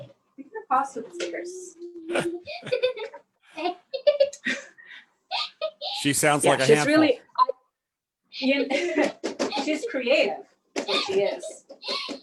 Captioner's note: laughs; chuckles